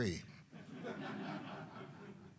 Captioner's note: laughter